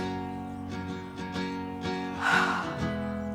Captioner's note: sighs